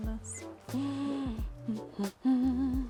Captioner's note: gasps